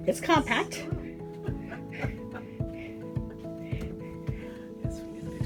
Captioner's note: laughs